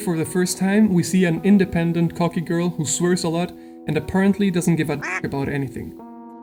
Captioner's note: quack